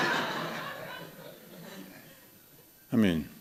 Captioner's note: laughter